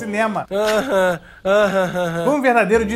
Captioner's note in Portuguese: riso debochado